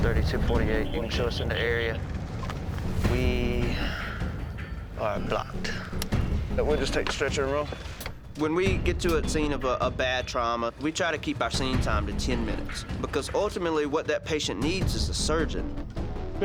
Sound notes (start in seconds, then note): 5.7 click